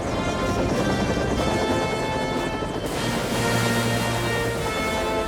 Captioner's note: helicopter rotors whirring